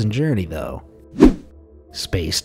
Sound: air whooshing

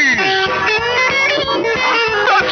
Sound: laughing

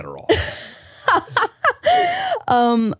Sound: laughs

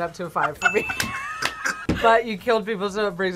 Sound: both laugh

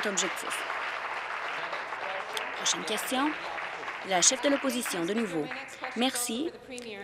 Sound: applause

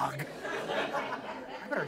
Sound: audience laughs

